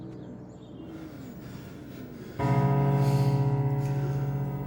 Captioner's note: Lennox panting